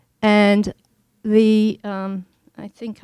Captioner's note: none